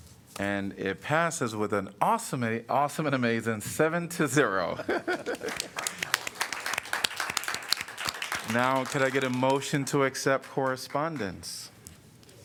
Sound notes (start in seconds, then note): 4.7 laughter; 5.4 applause